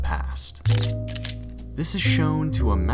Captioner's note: camera shutter